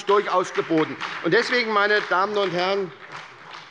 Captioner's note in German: Beifall bei Abgeordneten der SPD